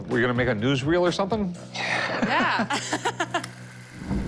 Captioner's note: laughs